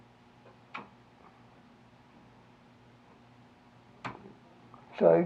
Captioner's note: mouse clicking